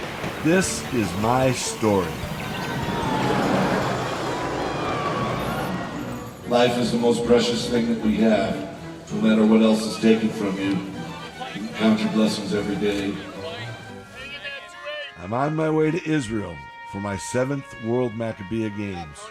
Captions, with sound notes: This is my story. (Roller coaster whoosh & crowd screams) Life is the most precious thing that we have, no matter what else is taken from you, count your blessings every day. I'm on my way to Israel for my Seventh World Maccabiah Games.